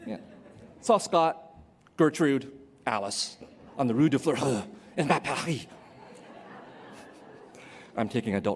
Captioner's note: non-english speech